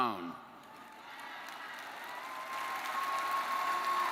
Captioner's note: graduates cheer